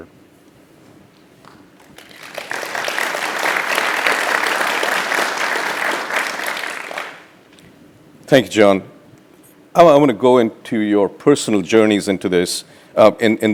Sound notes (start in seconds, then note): 1.7 applause